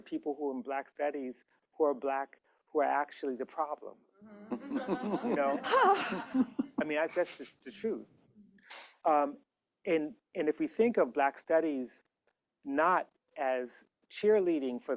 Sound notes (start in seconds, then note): 4.4 laughter; 5.6 sighs